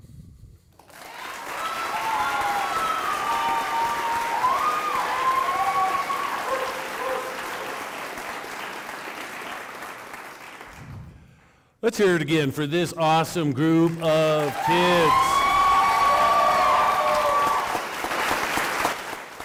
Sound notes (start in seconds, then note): 3.4 applause